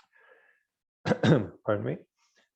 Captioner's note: clears throat